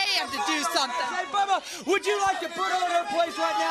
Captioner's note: crowd cheering